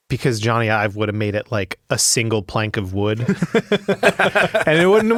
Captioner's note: laughs